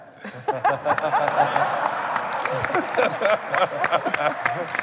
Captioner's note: laughter and applause